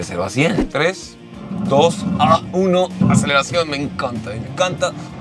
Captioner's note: engine roaring